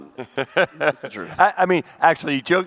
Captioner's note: laughs